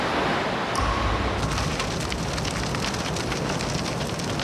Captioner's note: ice splashing into water; crackling fire